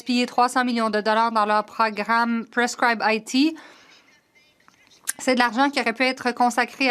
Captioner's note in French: voix de l'interprète